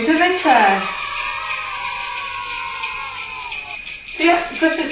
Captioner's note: sleigh bells; children shouting "yay"